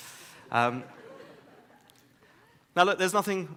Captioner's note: audience laughs